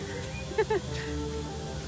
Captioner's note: laughs